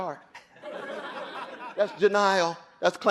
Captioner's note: audience laughing